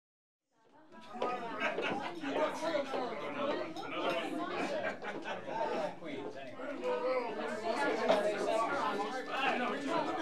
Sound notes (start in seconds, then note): 0.8 patrons chattering; 1.4 patrons laughing